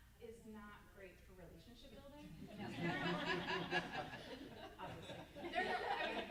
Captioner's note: laughing drowns out speaking